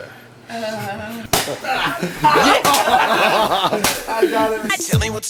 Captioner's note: laugh; tiny explosions